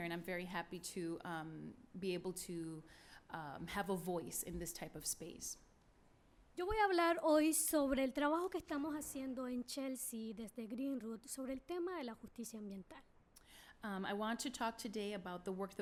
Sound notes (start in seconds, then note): 6.5 speaking spanish